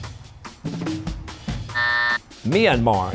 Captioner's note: buzzer